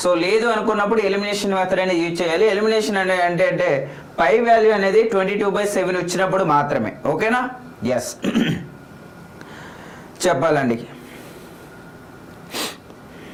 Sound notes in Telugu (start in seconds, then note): 8.2 గొంతు సవరించుకోవడం